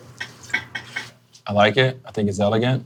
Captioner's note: glass clinking